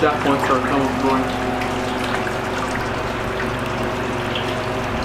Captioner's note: water dripping